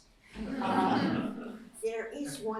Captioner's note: laughter